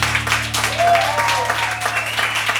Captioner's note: cheers